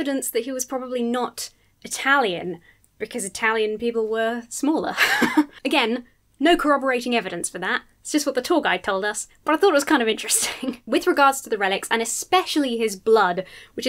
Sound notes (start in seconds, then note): 4.9 chuckles